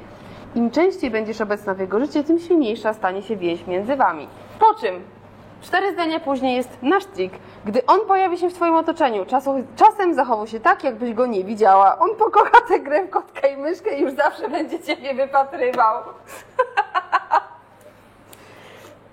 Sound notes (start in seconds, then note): 16.3 laughter